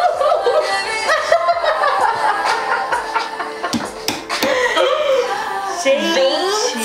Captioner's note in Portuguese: risos